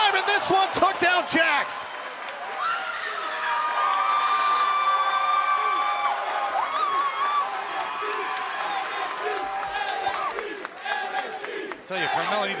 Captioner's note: crowd cheering